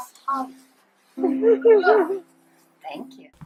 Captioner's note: everyone laughs